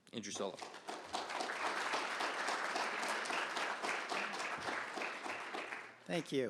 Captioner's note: applause